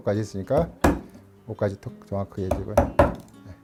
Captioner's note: hammering sound